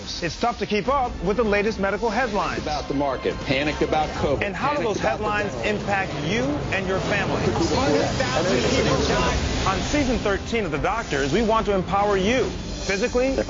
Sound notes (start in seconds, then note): 7.8 people mumbling